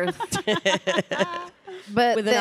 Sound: panelists laughing

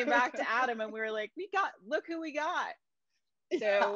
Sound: laughs

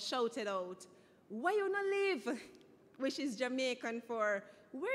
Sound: speaking in foreign language

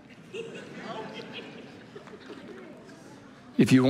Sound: congregation laughing

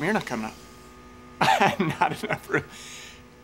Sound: chuckles

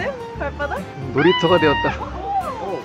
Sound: scream

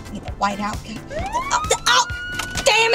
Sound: sound of Police siren

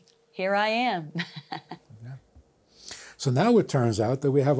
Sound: laughs

